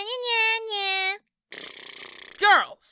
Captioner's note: blows raspberry